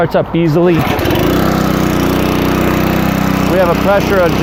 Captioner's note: engine runs